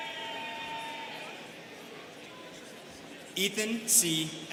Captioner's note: students cheering